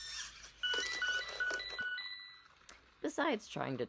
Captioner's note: loud continuous mechanical noise; panicked beeping as Tsukiko collapses